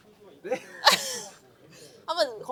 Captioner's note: laughs